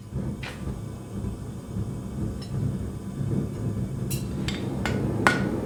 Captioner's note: furnace roaring; hammer banging